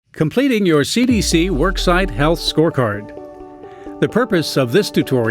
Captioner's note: voiceover